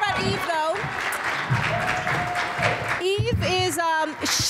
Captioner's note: audience applauds